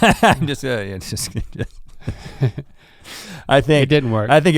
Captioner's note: laughing; mutters